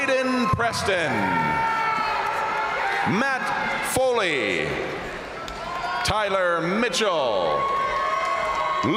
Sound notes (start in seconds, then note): 1.3 crowd cheering; 1.8 crowd applauding; 4.3 crowd cheering; 7.4 crowd cheering; 7.4 crowd applauding